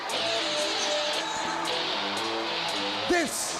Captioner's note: crowd cheering